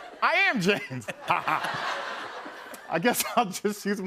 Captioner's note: laughter